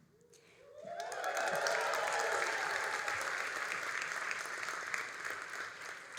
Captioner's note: all applauding and cheering